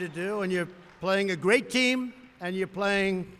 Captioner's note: applause